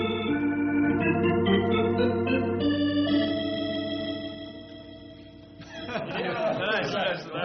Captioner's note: laughter